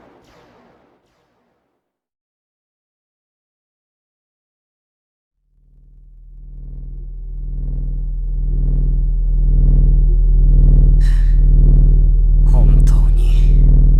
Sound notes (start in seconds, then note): 11.0 annoyed breath